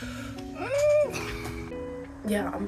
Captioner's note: crying